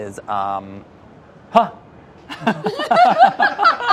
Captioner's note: laughing